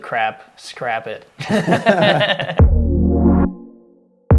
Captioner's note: laughter